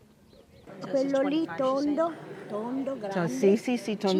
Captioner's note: speaking italian